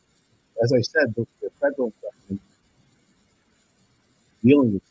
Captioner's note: audio distorts